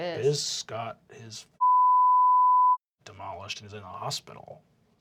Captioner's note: deep voice